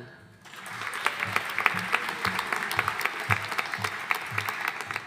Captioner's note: audience applauding